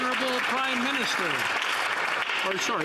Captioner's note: some Applause